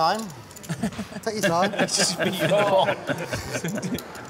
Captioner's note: laughing